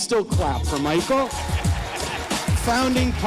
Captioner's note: audience applauding